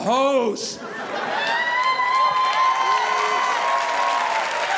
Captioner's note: crowd cheering